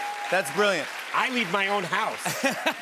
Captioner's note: laughs